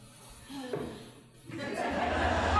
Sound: sighing, annoyed; audience laughing

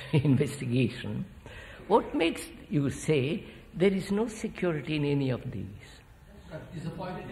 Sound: laughs

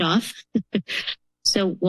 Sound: chuckles

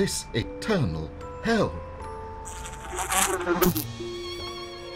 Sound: insect buzzing sound

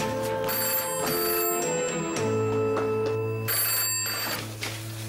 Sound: telephone ringing

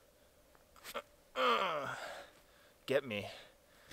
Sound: grunting

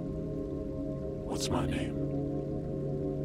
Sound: low Voice

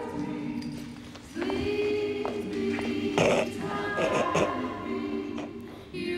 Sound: sniggering

